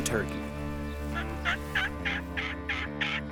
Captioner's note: imitating turkey calling